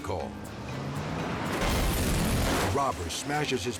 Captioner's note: glass shatters